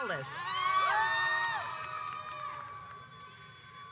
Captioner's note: audience cheers